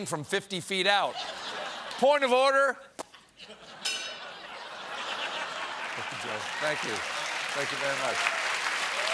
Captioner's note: ping